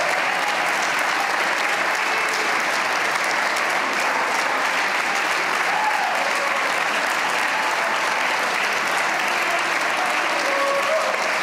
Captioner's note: cheers and applause